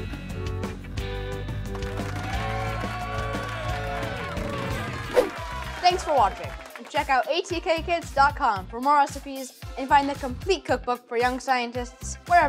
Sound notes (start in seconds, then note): 0.2 upbeat music; 1.4 crowd cheering and clapping